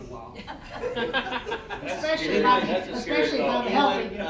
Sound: all laughing

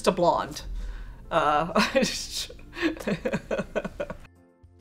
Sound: laughs

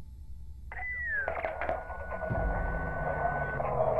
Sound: beeping

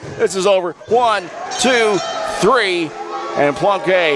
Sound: match bell rings

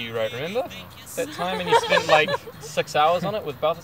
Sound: laughing

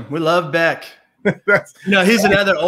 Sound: laughs

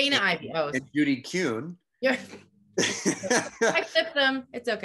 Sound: laughs

